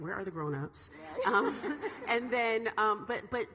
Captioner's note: all laughing